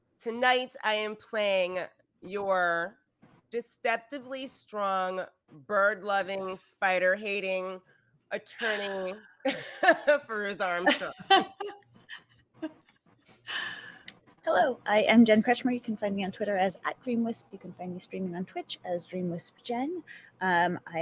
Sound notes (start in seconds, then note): 10.8 narrator laughing; 10.8 laughs